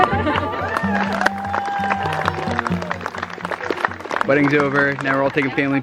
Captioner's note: guests cheering and clapping